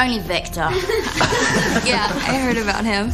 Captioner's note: Râsete